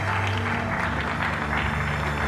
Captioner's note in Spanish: aplausos